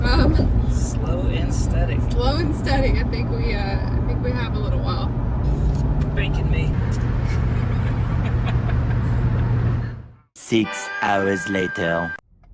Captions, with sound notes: Slow and steady. Slow and steady. I think we uhhh... I think we have a little while. Bacon me. *laughs* 6 hours later...